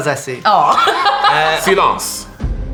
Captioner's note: she laughs